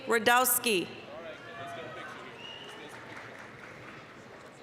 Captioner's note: applause, cheering